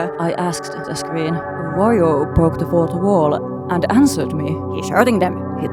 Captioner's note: calmly